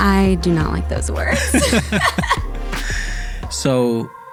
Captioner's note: both laughing